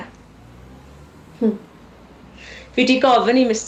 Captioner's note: cars pass